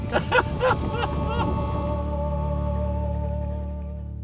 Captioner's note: laughing